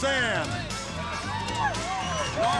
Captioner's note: crowd cheering